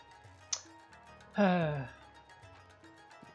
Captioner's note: sigh